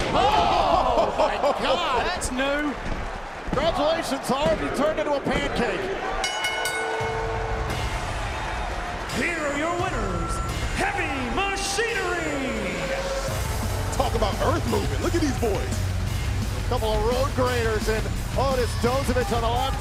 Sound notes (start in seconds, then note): 6.2 bell ringing